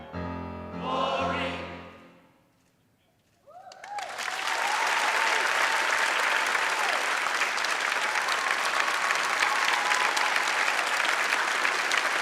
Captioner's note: applause and Cheering